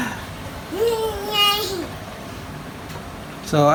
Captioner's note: baby sounds